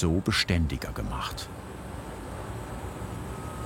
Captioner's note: dull whirring